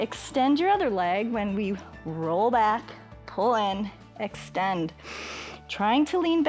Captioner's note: inhales